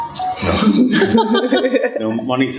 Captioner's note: laughter